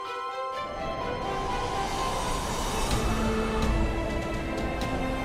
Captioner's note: wind whooshing